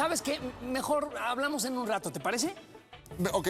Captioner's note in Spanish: risas